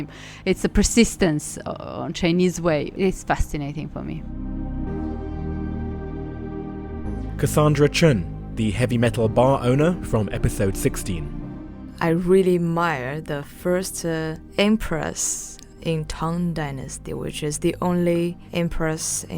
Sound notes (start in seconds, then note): 6.0 voiceover